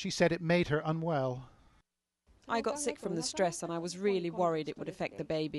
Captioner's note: through translator